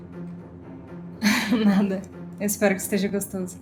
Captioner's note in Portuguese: risos